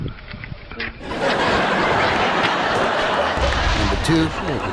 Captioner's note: audience laughing